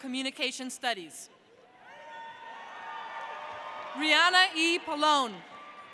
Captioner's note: audience cheering